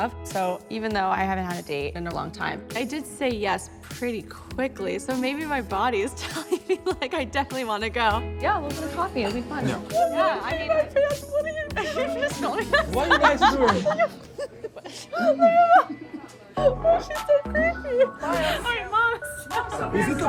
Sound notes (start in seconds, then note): 14.4 laughs